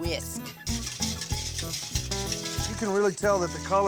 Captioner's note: stirring